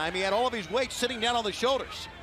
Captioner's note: crowd cheering